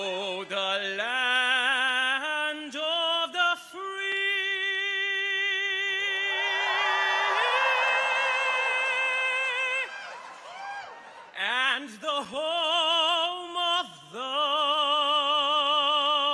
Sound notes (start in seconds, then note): 6.1 audience cheers